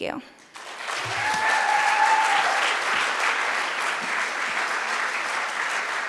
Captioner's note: audience cheering and applauding